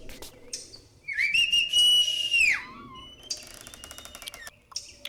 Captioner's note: whistle